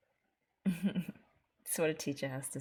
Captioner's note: chuckles